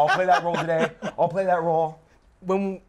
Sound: laughs

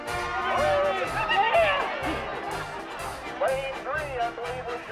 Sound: crowd cheers

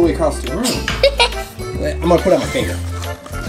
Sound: giggles

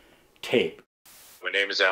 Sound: static noise

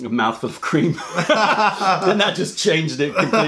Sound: laughter

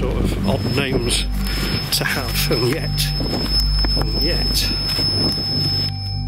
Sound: sensor beeps

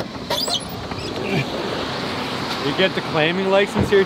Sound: truck door squeaks open

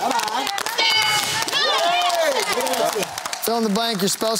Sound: cheering

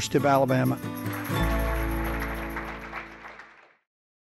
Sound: audience applauding

